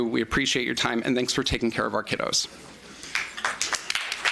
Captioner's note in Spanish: Aplausos